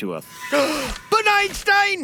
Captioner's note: gasp